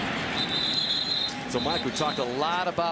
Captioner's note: whistles